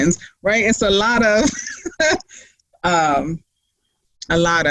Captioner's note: laughing